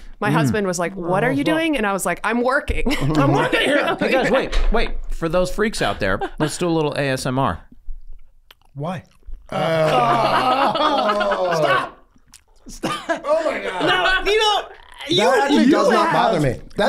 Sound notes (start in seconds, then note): 7.7 lip smacking; 9.4 everyone groaning